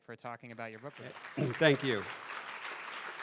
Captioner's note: audience applauding